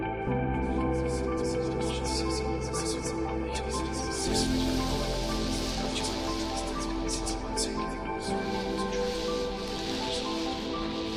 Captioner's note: spirits whisper